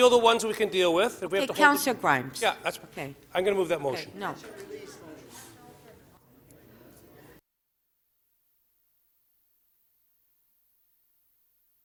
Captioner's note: audio Gap